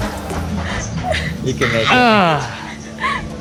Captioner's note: laughing